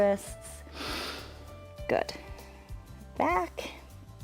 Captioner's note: inhales